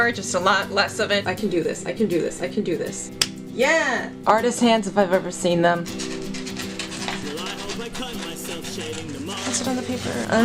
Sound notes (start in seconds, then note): 3.2 clap; 10.2 singing